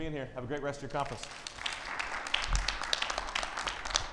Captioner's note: audience applauds